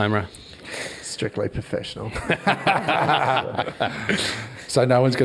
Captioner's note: all laugh